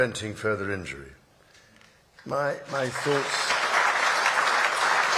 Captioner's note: applause